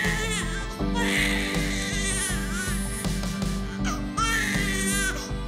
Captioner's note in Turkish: Bebek ağlıyor